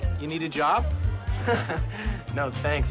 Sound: Brandon scoffs

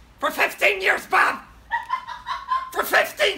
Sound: laughing

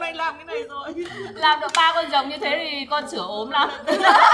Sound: laugh

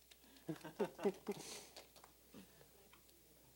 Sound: both laughing; applause

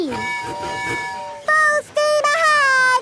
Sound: tooting

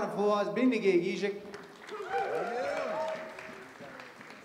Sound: audience cheers and applause

